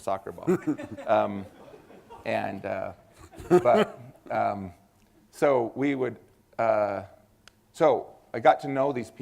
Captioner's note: laughter